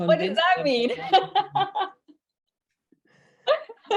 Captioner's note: laughs